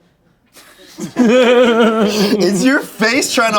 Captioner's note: everyone laughs